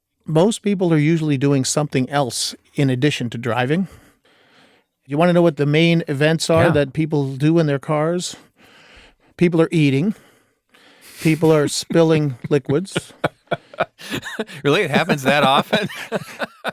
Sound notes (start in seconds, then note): 12.8 laughing